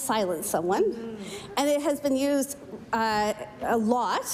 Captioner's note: speaking french